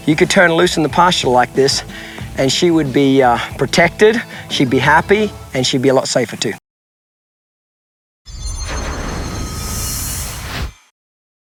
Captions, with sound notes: you could turn her loose in the pasture like this and she would be protected, she'd be happy, and she'd be a lot safer, too. (shimmering)